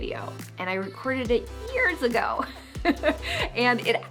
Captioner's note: laughs